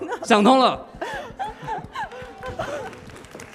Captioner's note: laughs